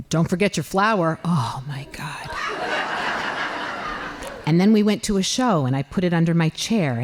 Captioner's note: laughing